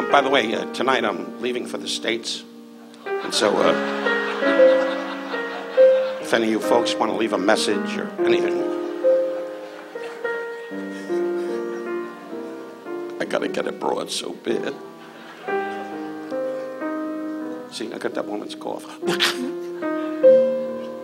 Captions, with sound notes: By the way, tonight I'm leaving for the states. And so... (audience laughs) If any of you folks wanna leave a message or anything. I gotta get a broad so bad. (audience laughs) See, I got that woman's cough. (coughs)